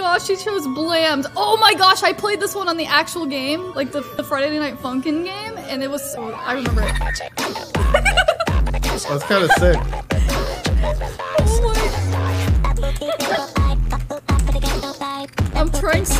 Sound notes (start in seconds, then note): 8.5 giggles; 12.8 giggling